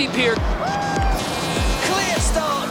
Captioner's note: starter horn honking